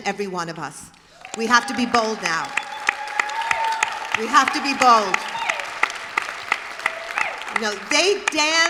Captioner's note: applause